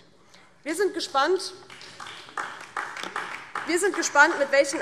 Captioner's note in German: Beifall DIE LINKE und vereinzelt SPD